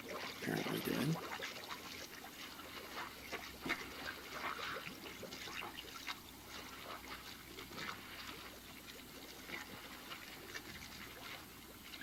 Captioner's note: sounds of car sinking